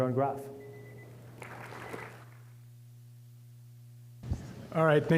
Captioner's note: applause